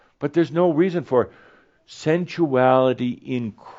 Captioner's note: none